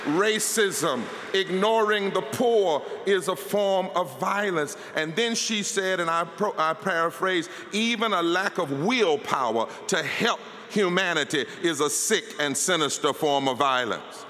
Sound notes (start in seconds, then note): 0.8 applause